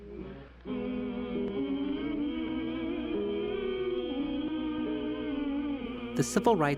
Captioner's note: humming